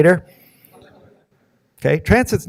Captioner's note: audience murmuring